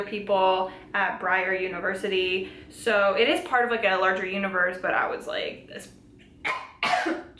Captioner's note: coughing